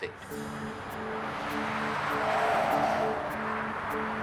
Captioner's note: car engine roaring